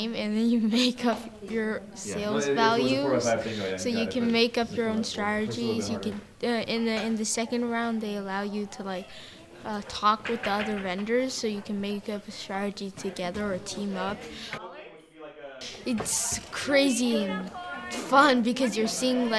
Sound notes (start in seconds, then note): 14.6 classroom chatter